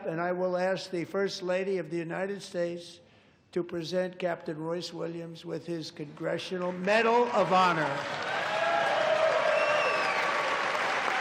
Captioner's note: applause